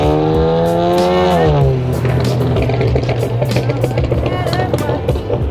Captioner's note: car engine revving